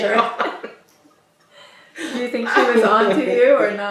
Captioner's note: laughs